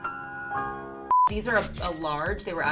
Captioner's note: beep